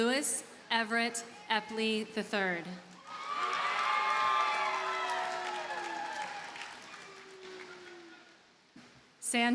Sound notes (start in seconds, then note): 2.9 audience cheers and applauds